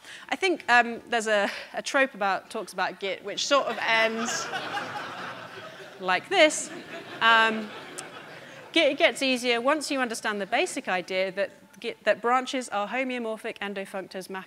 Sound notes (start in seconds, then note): 4.0 audience laughing